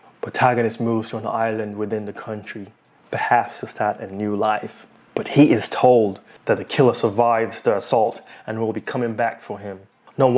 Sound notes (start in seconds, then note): none